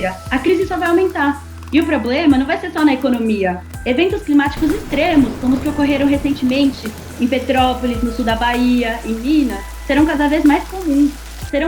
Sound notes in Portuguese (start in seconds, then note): 4.5 trovoada